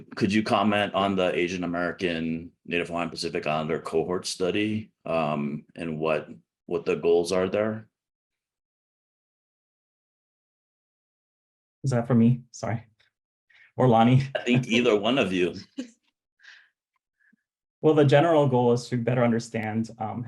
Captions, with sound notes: - Could you comment on the Asian American, Native Hawaiian, Pacific Islander cohort study and what the goals are there? - Is that for me? Sorry. Or Lani. - I think either one of you. (panelists chuckling) - Well, the general goal is to better understand